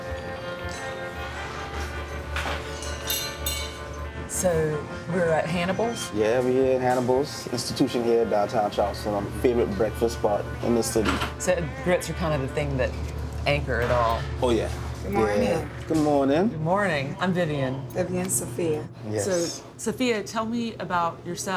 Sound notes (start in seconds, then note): 2.7 clanging dishes